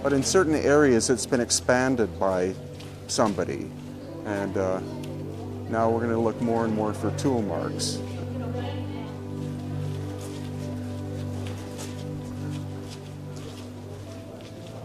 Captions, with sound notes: but in certain areas it's been expanded by somebody. And now we're gonna look more and more for tool marks. (tourists chattering) (gentle music)